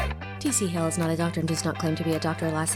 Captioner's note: voiceover